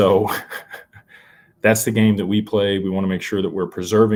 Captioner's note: laughter